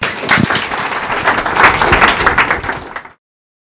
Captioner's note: applause